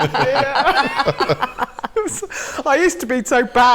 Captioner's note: laughter